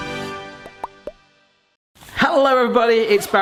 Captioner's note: musical fanfare; popping